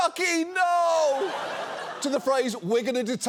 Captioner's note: audience laughs